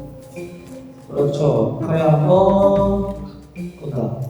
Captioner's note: pfft Pfft